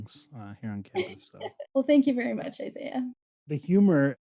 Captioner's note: chuckles